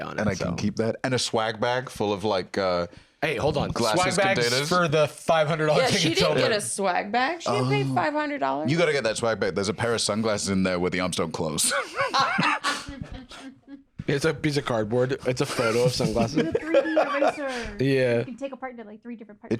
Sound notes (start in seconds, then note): 11.6 laugh